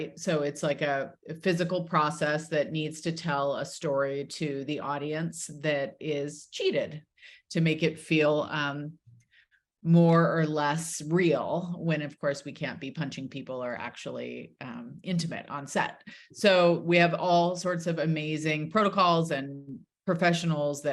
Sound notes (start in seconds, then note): none